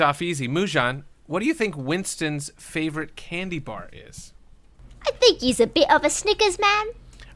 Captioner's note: cockney voice